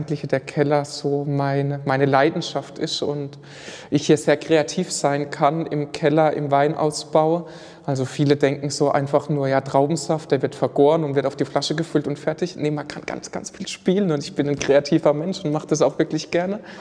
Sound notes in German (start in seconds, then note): none